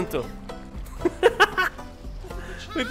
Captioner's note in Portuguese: risos